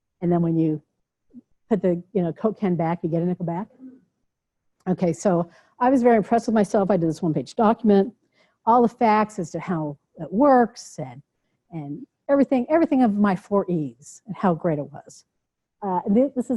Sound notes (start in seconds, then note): none